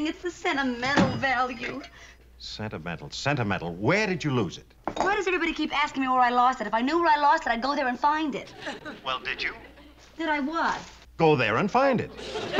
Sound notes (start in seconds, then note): 9.2 on phone